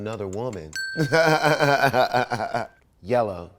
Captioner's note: bell dings; laughs